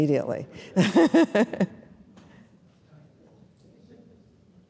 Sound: laughing

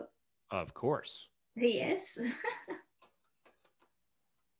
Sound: chuckles

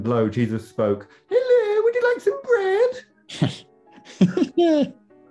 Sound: high-pitched exaggerated voice; laughing

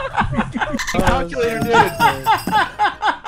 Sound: unrestrained laughter

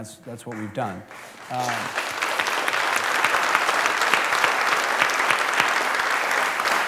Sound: applause

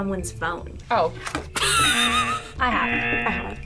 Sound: laughs

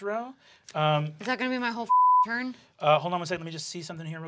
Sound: beep

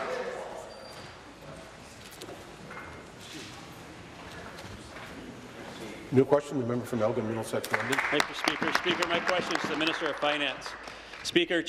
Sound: applause

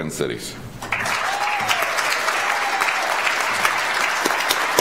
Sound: audience applauds

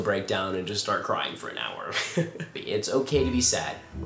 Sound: awkward laugh

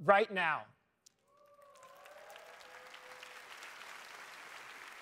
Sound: applause

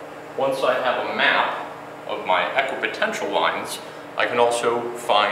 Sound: voiceover

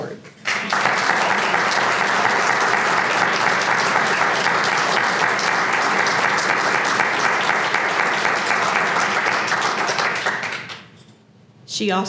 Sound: applause

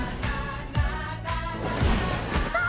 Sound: both scream

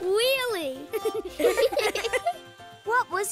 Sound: laughing

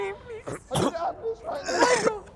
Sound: weeping

